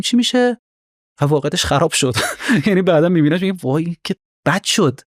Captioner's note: laughs